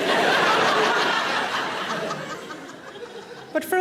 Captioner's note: audience laughing